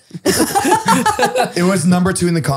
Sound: all laughing

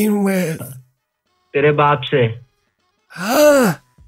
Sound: swearing in Hindi

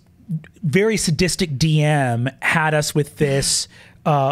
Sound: none

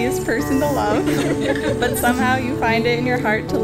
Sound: audience laughs

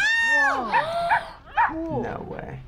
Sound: gasps

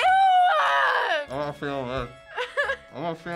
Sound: mouth full; giggles

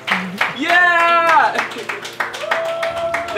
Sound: clapping

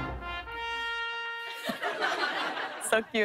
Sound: laughter

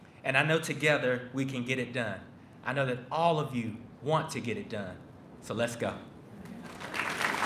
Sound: applause

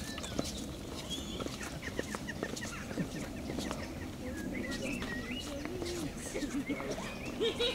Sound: footsteps in the distance

